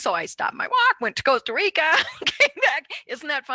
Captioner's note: laughs